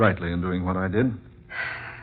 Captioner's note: sighs